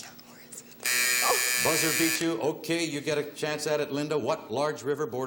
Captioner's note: buzzer